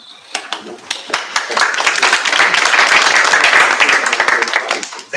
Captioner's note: applause